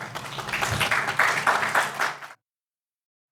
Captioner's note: audience applauds